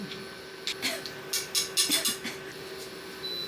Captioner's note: cough